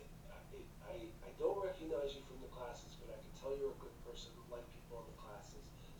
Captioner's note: whispering